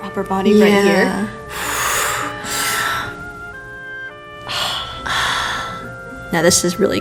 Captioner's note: breathing intensifies